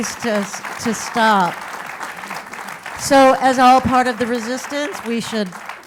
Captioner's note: applause